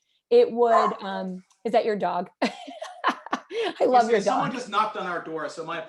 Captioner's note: laughter